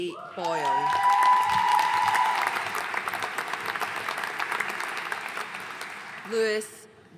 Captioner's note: audience cheering and applauding